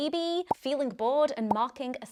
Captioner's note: popping